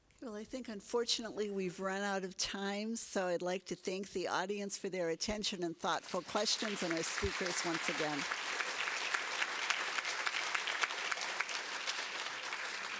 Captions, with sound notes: Well, I think, unfortunately, we've run out of time. So I'd like to thank the audience for their attention and thoughtful questions, and the speakers once again. [APPLAUSE]